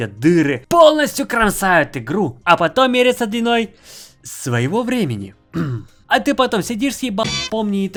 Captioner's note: ahem